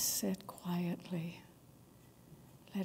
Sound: silence

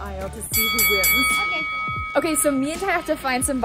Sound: bell dings

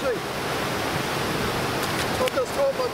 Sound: waves crashing

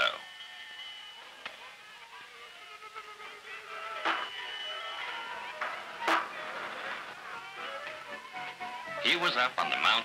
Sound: fair sounds

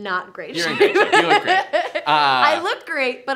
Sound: laughs

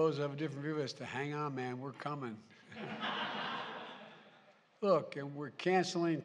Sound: laughter

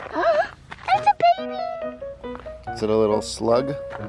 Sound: gasps

